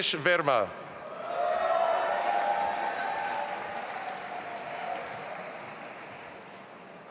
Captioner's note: audience applauding and cheering